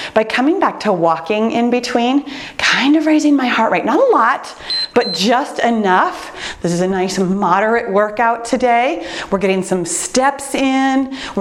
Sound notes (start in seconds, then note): 4.6 timer beeps